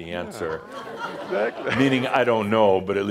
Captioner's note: laughter